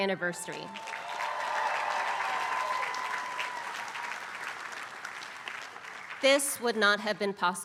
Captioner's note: applause